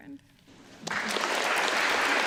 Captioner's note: applause